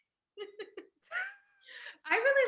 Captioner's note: laughing